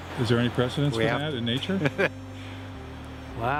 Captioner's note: laughing